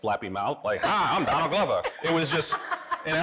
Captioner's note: laughing